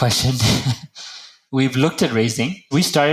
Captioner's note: laugh